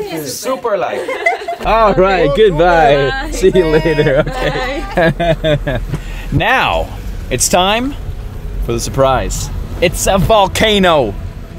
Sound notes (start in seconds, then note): 0.8 laughing